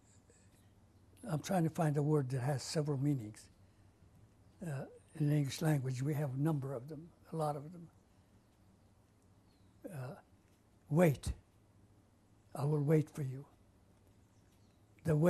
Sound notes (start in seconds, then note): 0.0 pauses for 6 seconds; 9.8 pauses for 3 seconds